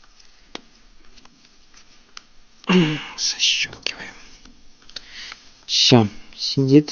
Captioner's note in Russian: откашливается